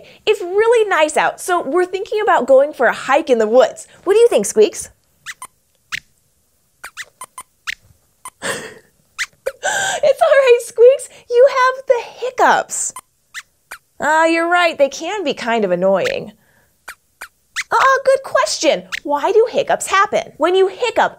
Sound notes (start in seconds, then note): 6.8 squeaks hiccups; 13.6 squeaks squeaks; 16.8 squeaks squeaks and hiccups